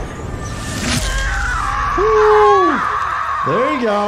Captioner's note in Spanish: mujer gritando